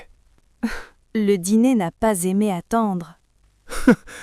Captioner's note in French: rire